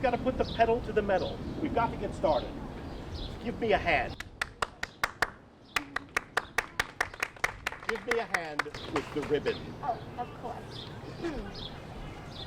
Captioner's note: clapping